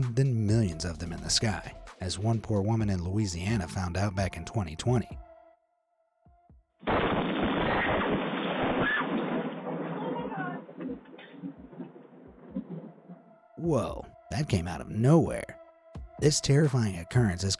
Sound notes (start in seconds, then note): 6.9 debris smashing; 7.0 woman screams